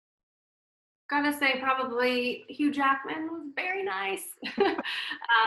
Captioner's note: laughs